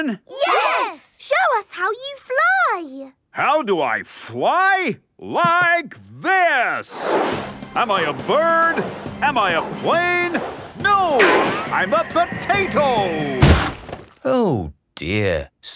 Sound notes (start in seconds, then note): 6.9 whooshing; 13.4 crashes